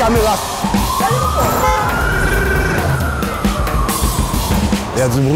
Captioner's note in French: sirènes, klaxons